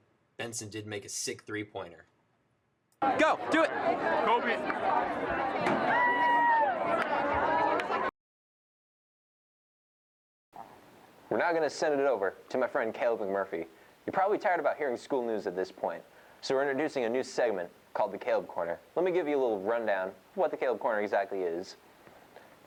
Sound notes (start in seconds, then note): 6.0 cheers; 8.2 silence